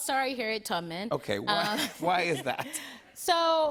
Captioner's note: both laugh